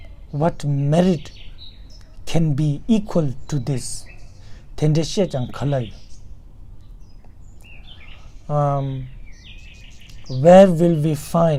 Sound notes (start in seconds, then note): 4.0 tibetan